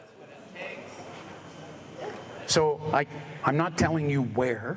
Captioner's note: audience respons